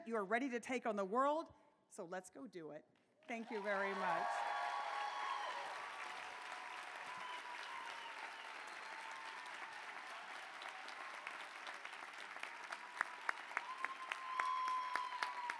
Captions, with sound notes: You are ready to take on the world. So let's go do it. Thank you very much. [APPLAUSE]